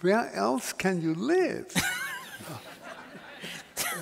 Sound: laughter

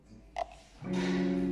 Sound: pop

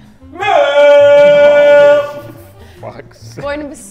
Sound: Josh shouts

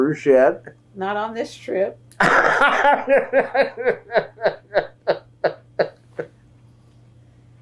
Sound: laughter

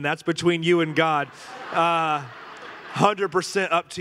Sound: congregation laughing

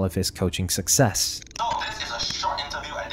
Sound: glitch sound effects

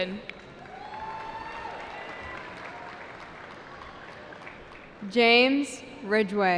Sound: cheering

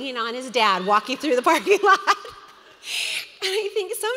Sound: laughs loudly

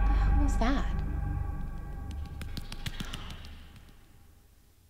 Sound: footsteps pattering

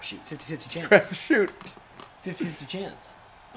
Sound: laugh

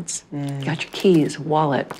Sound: purse rustles

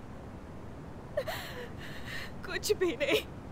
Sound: sobbing

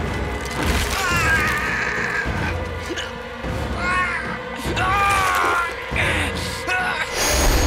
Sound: groaning

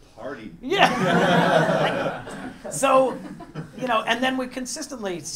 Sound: laugh

